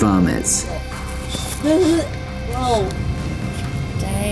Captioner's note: gagging